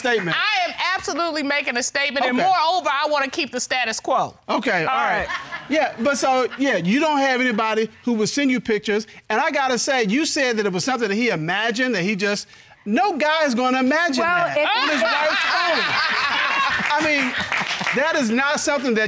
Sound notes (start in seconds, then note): 14.5 audience laughing